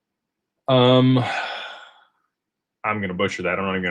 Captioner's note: sighs and gasps